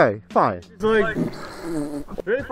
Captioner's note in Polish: odgłosy pierdzenia